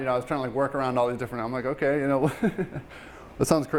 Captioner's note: laughing